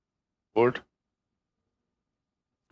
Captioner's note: speaking French